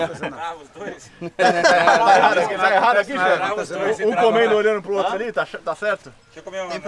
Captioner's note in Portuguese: risos